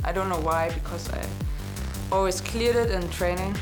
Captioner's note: none